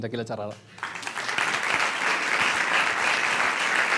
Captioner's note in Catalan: aplaudiments